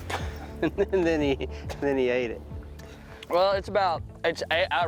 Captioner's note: laughs; chomps